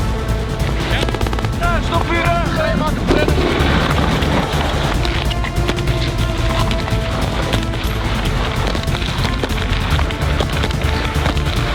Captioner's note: shooting sounds